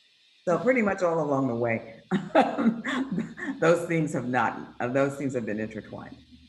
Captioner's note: laughs